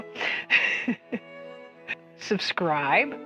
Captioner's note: chuckle